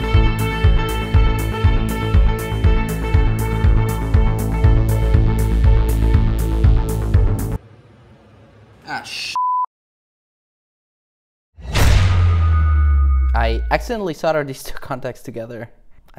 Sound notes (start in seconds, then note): 11.6 loud boom